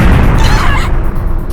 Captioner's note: panicked cries